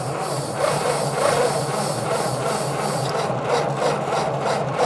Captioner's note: engine shutters